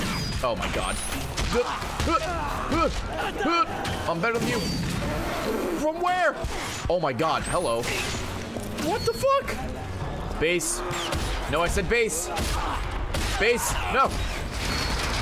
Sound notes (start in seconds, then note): 2.0 fighting noises